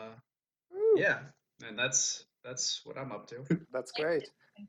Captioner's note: laughs